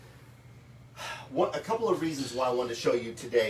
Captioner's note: sighs